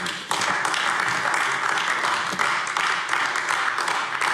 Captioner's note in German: Beifall AfD